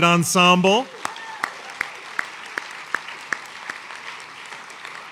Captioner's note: applause